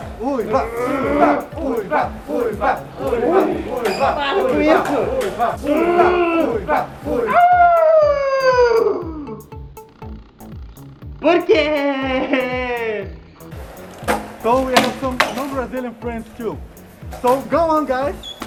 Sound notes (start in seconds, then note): 7.5 howls in Portuguese; 14.3 in English